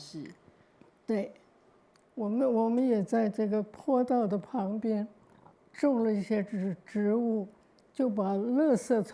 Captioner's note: Mandarin